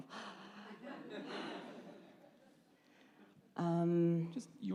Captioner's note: laughter